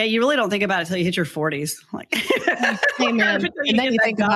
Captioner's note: laughs